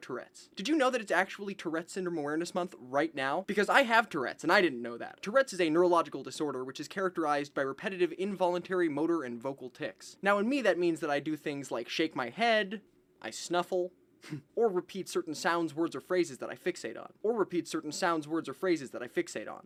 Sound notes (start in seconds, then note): 14.2 snuffles